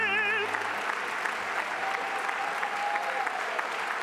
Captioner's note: applause